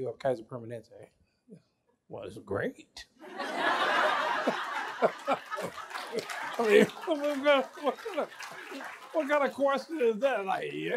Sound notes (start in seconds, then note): 3.2 laughter